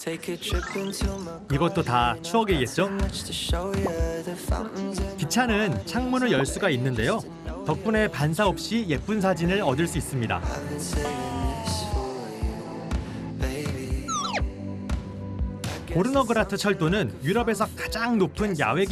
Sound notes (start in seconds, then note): 13.0 sigh